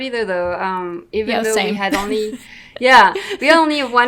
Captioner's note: laughs